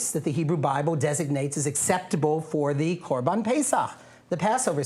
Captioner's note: non-english speech